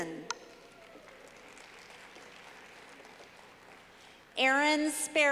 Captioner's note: clapping